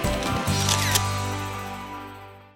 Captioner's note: camera shutter clicks